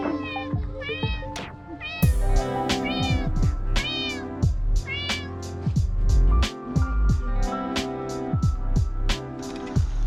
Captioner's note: cat meowing